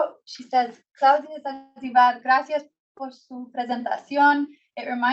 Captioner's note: foreign language